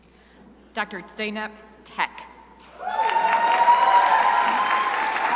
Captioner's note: crowd applauding